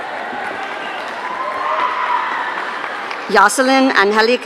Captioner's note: audience cheering